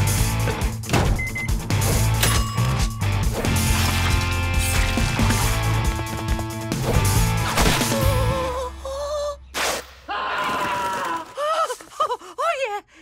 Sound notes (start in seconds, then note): 1.1 beeping; 2.2 ding; 10.0 ripping, screaming